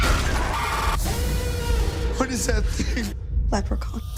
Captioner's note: screaming